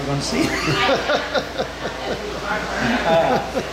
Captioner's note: laughing